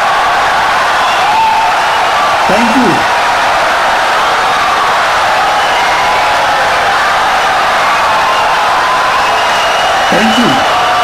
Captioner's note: wild applause and cheering for 17 seconds